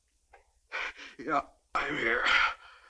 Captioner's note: gasps